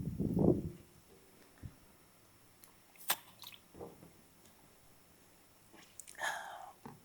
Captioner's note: sighs